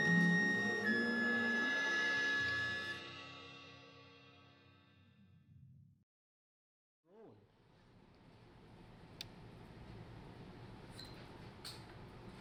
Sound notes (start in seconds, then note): 1.5 cymbals whooshing; 8.3 circulating air humming